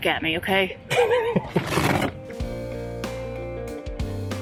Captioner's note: laughs